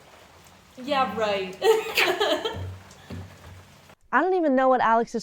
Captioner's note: laughs